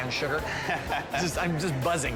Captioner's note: laughing